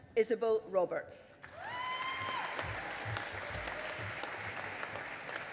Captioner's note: audience applauding